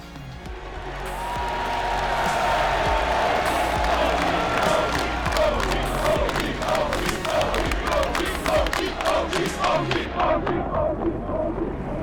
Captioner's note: crowd cheering